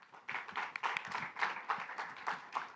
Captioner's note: applause